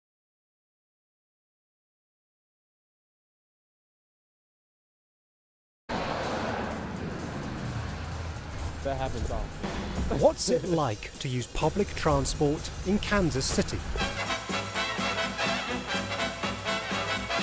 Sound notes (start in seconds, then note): 6.4 upbeat music; 10.0 laughs; 14.1 upbeat brass music